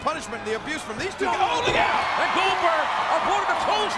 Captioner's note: audience cheers